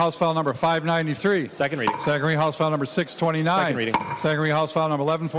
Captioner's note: gavel